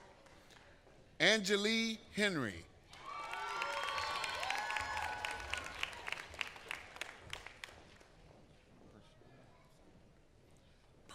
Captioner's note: applause